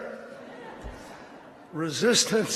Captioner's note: laughter